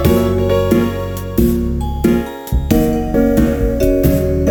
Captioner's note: rattle